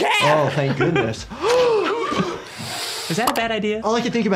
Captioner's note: gasps